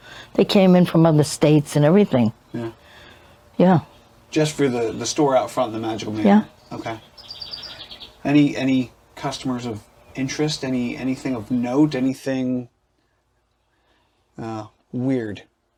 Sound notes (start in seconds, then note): 7.8 birds chirping